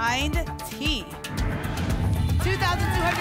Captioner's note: whoosh